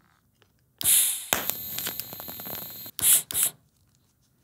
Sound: welding gas hisses and pops

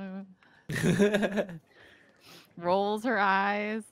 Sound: laughs

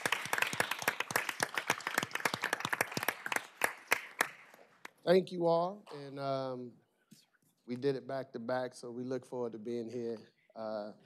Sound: applause

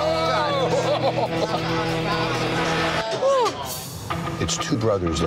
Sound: all laugh

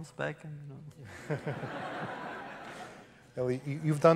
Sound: laughter

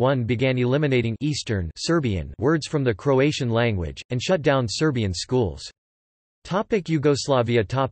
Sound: Serbian

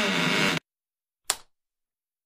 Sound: door opens; light switch flicks

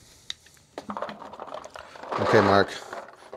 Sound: paint balls rolling

